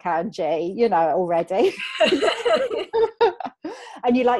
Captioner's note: laughing